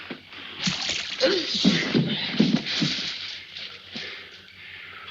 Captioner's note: water splashing